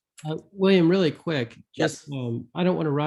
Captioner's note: tender Voice